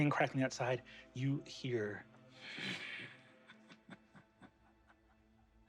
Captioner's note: chuckles